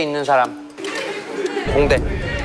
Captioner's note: murmurs